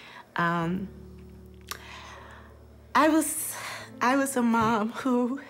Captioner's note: sighs